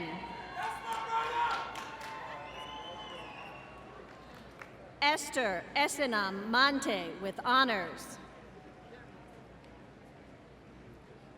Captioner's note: applause